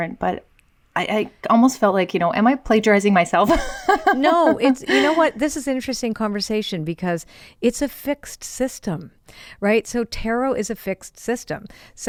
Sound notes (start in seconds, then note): 3.5 laughing